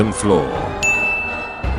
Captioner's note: ding